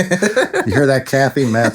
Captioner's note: laughing